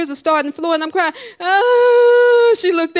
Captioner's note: crying